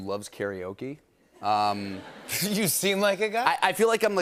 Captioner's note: laughter